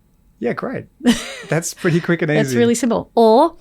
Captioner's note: Layne laughs